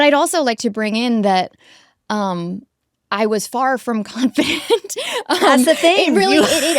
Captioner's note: chuckles